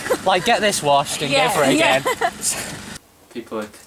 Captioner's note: laughter